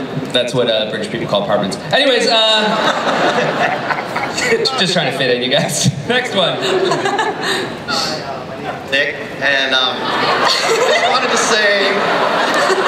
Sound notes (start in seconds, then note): 9.4 voiceover